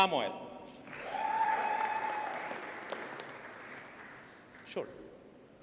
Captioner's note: audience cheers and applauds